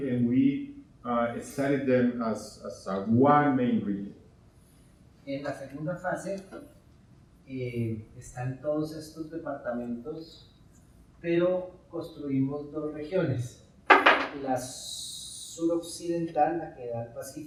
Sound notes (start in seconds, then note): 5.3 speaking in Spanish